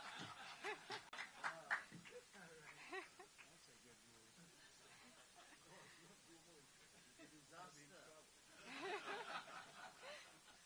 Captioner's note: laughter